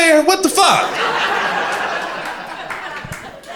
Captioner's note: crowd laughing